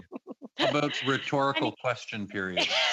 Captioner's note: laughter